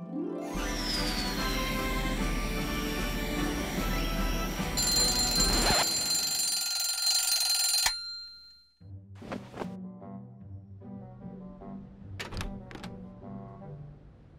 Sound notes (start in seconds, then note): 0.5 air blows; 4.6 alarm clock rings